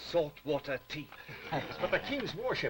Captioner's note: laughter